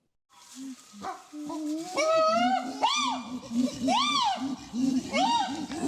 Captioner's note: chimpanzee pant hooting